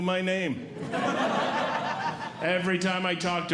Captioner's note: audience Laughing